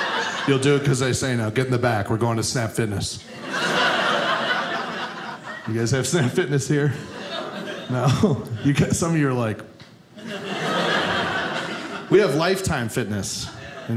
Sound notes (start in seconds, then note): 3.3 audience laughing